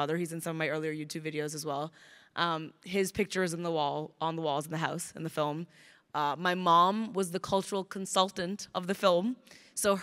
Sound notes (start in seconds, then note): none